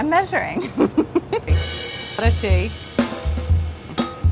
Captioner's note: laughter